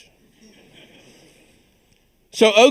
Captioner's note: audience chuckles